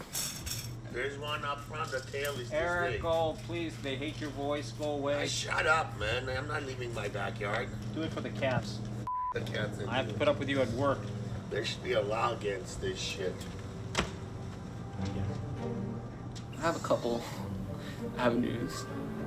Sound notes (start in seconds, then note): 9.0 beep; 13.9 door closes